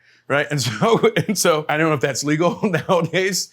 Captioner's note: laughs